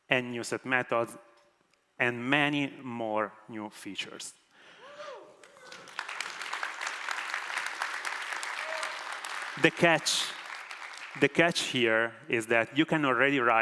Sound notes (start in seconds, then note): 5.4 applause